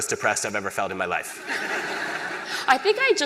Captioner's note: laughter